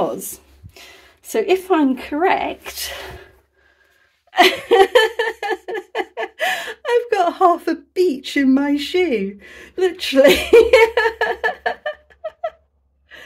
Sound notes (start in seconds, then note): 3.7 laughing